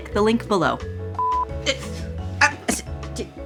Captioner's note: stuttering